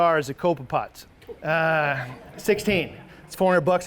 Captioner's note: audience laughs